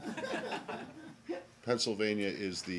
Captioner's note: laughter